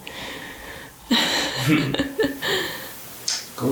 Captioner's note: laughing